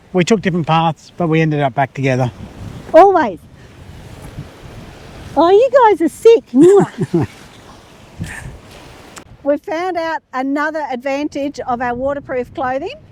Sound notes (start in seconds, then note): 6.5 laughs